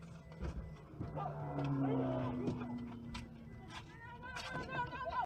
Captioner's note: engine roaring